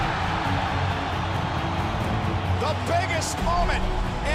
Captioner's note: cheers and applause